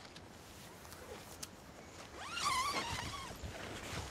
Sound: zipper

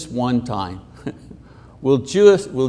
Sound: chuckles

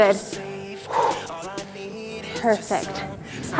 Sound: huffs air out

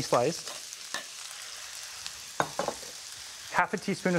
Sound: onions sizzling

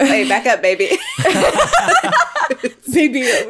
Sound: all laughing

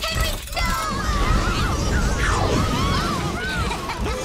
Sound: joyous shouting

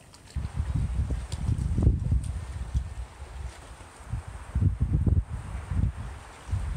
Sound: lots of wind; water spalsh

